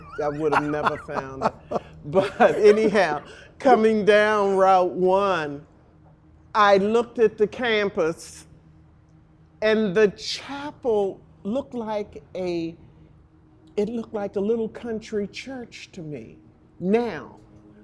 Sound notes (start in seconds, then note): 3.7 both laughing